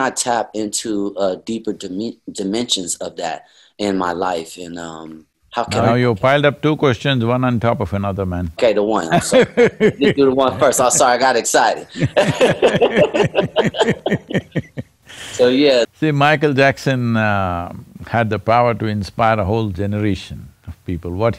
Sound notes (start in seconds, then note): 9.1 laughs; 11.9 laughter